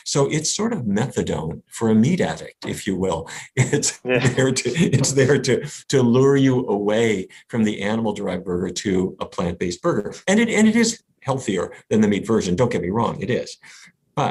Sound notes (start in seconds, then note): 3.9 laughs